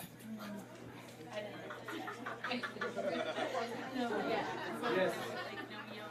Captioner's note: chattering continues